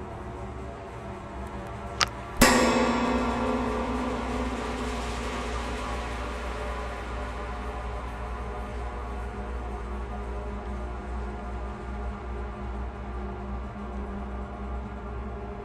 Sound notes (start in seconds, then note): 1.5 scurrying; 2.4 suspenseful music